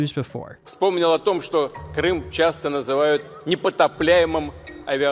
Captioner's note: Putin speaking Russian